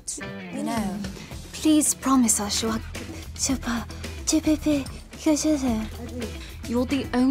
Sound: Vanessa speaking gibberish; Vanessa speaking gibberish

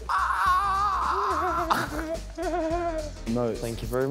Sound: laughs

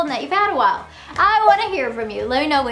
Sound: hands tapping

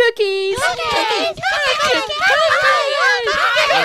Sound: lil's exclaiming in excitement

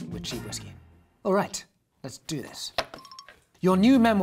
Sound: upbeat music ends; ringing

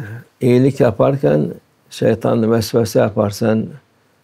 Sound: whispers of doubt

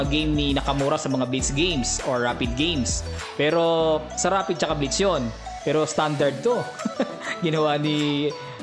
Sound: laughing

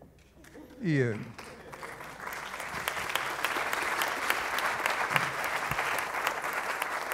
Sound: audience applauds

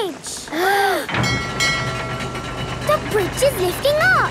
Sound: kids gasping; bell dinging

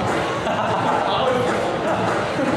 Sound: haha

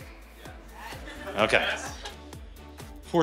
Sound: laugh

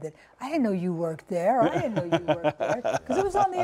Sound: laughter

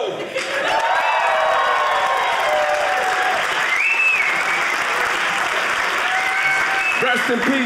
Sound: audience cheering

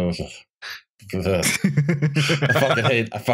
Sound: chuckles

